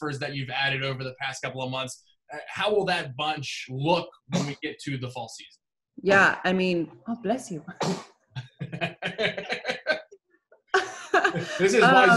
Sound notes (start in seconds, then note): 7.8 baby sneezing; 8.4 laughter